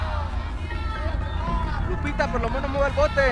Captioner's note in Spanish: Bullicio